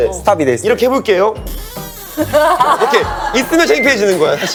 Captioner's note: creak